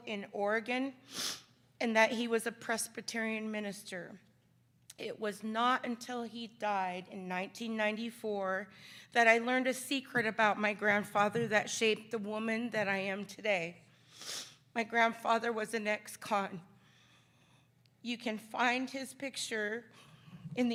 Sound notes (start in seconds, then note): none